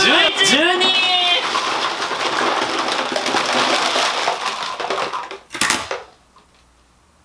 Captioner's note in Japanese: ブロックが落ちる音